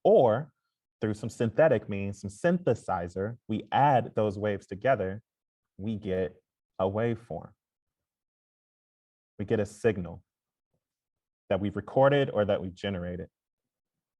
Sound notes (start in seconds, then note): none